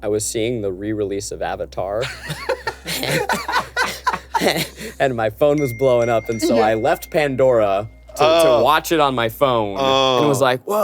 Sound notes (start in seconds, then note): 2.0 everyone laughs